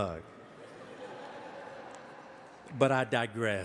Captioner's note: audience laughing